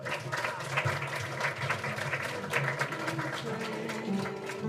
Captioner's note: audience applauding